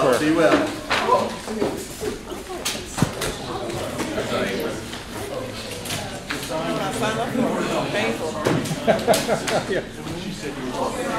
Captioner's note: background Talking